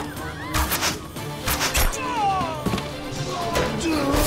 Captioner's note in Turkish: Bağırma sesleri; Müzik - Hareketli; Ok sesleri